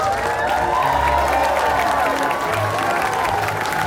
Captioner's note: crowd cheers